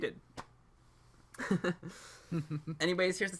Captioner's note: both giggle